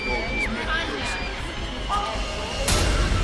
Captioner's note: voices chattering; ghostly Voice; voices chattering